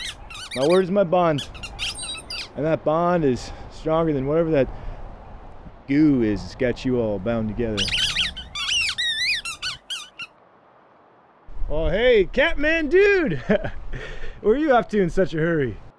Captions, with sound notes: My word is my bond, and that bond is stronger than whatever that goo is that's got you all bound together. *Rat King squeaking* Oh hey, cat-man-dude! Where are you off to in such a hurry?